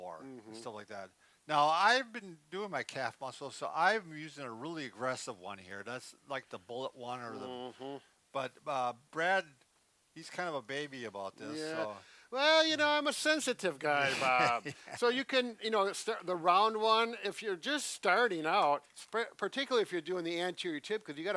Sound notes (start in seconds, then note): 14.0 laughing